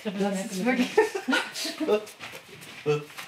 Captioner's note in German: Lachen